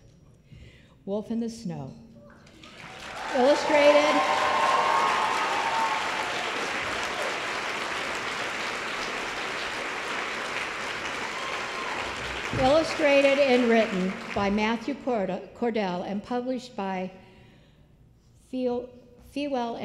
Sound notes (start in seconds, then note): 2.4 applause